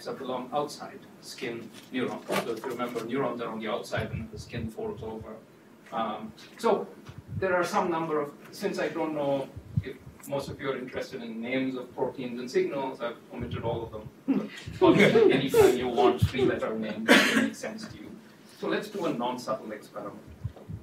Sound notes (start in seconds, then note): 14.8 laughter